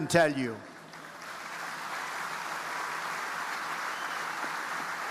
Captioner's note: audience applauding